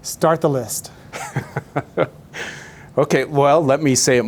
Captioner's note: laughing gently